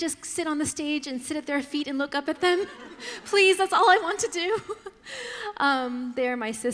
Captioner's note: laughter